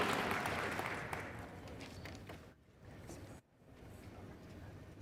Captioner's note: cheers and applause